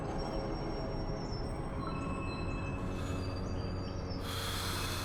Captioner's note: deep breathing